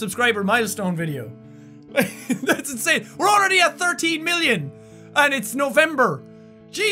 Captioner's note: laughs